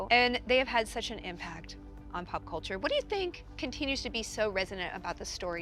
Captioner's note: none